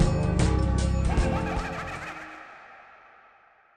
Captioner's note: mischievous laughter